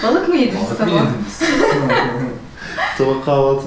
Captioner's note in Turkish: Gülüşmeler